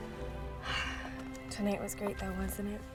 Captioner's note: sighs